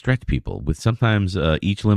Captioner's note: uh